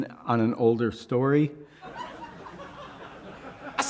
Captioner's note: laughter